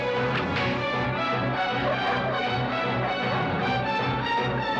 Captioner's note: barking